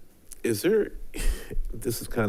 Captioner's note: chuckles softly